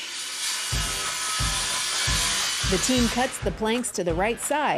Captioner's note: handsaw whirring